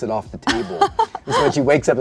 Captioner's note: laughs